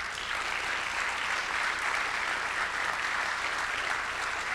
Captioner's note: audience clapping